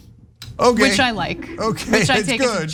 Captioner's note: laugh